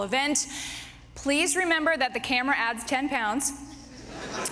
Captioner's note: laughter